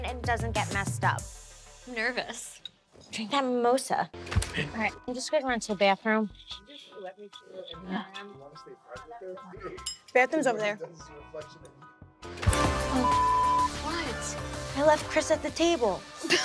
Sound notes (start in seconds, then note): 7.0 background chatter; 12.2 upbeat music; 12.9 beep